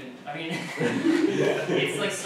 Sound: laughter

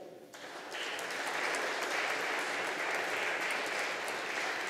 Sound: audience applauding

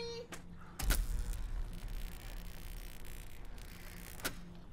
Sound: light crackles

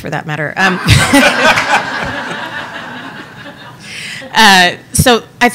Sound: audience laughing

